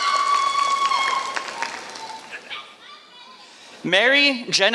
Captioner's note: applause